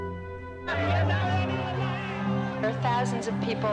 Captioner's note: EDSA crowd clamoring